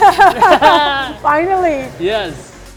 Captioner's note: both laugh